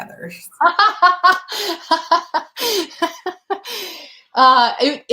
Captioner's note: laughter